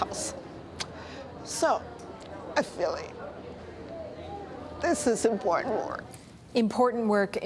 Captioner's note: voice breaking